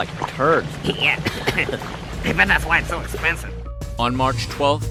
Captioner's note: coughing